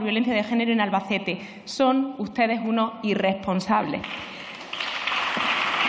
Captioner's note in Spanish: Aplausos